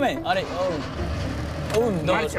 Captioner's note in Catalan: Motor